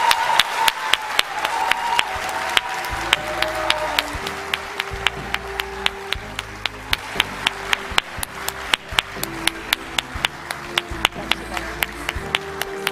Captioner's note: cheering; applause